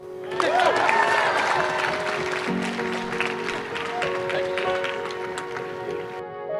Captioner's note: applause